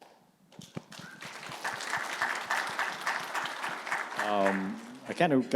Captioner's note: audience clapping